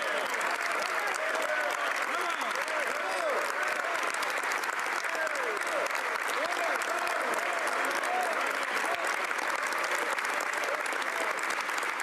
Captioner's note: some Applause